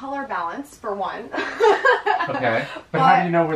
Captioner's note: laughs